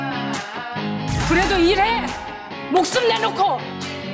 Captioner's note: applause